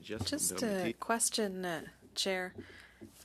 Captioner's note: speaking French